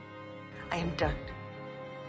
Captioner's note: voiceover